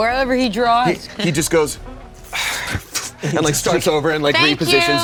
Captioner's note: sighs